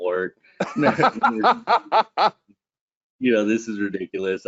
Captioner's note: laughing